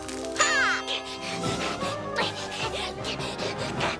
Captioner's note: Milo panting